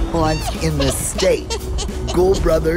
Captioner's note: witch cackling